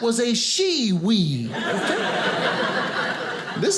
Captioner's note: audience laughing